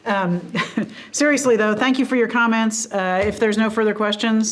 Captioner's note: chuckles